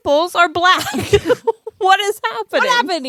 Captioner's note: laughs